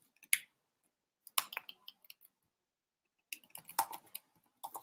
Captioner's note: keyboard clicking